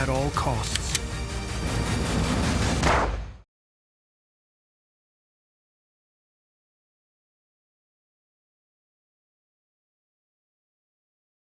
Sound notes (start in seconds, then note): 0.5 weapon clicks; 2.7 weapon fires